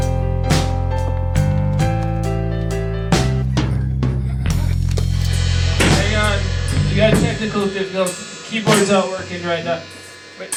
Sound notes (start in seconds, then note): 3.5 Elroy grunts